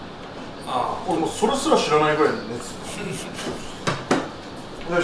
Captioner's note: laughs